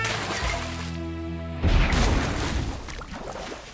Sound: muffled explosion

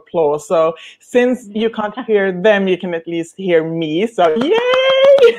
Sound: clapping

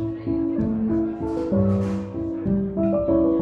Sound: chatter

